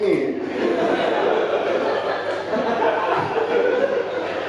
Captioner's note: audience laughing